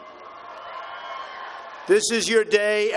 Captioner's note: applause